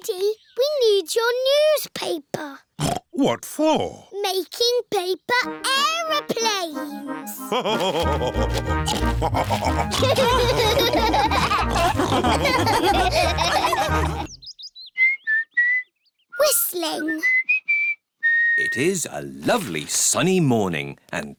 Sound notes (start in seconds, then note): 3.0 snorts; 7.5 laugh and snorts; 10.0 all laughing; 14.9 whistling